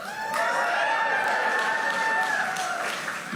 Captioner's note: applause